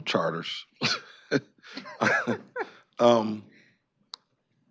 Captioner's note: chuckling